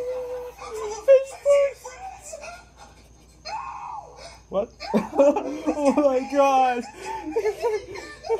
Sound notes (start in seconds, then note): 0.1 panting; 6.5 laughing